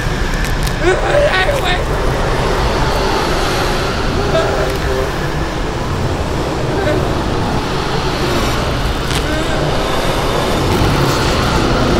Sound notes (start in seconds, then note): 0.8 screaming; 5.4 eerie music